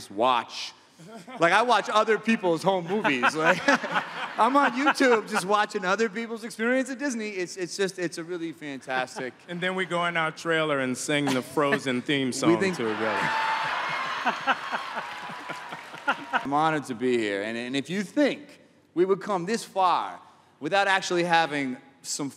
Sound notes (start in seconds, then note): 12.6 laughter and applause